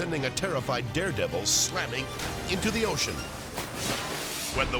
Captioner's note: water splashing